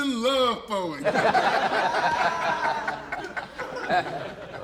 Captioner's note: laughter